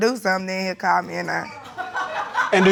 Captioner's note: audience laughing